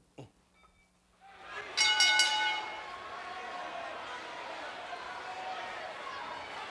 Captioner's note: audience chattering; chuckles; bells rings